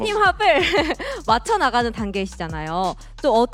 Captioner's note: laughs